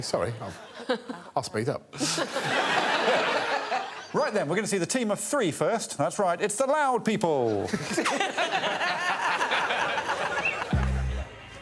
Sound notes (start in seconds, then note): 2.1 all laughing; 7.7 all laughing; 10.4 upbeat music